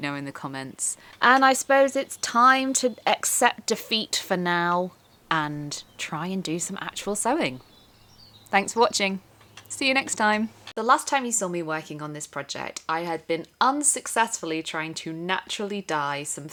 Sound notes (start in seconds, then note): none